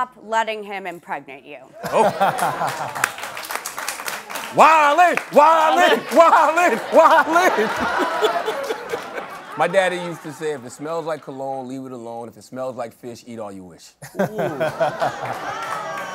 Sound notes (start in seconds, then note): 3.5 applause